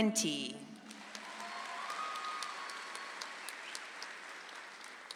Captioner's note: audience applauds